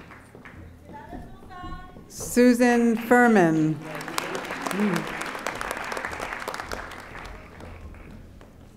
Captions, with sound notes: Susan Furman. (audience applauding)